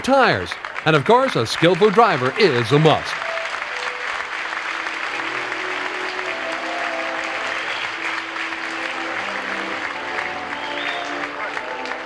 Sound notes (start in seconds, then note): 3.3 crowd applauds; 9.3 waltz music